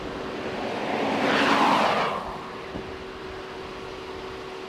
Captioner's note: car whooshing